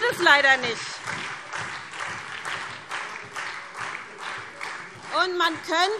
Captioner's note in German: Beifall SPD, Freie Demokraten und DIE LINKE